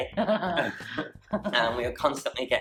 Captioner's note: laughing